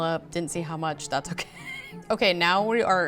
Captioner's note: laughs